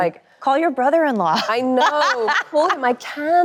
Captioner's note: laughs